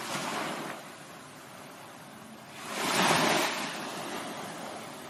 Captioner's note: wind blowing; wind blowing